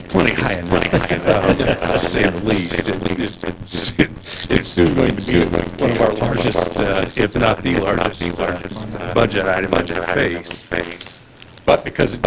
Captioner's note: laughter